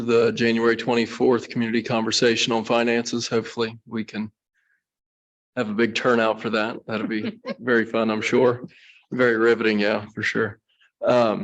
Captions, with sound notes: the January 24th community conversation on finances, hopefully we can have a big turnout for that. That'll be very fun, I'm sure. (people chuckle) Very riveting, yeah, for sure.